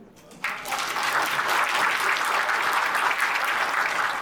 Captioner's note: audience applauds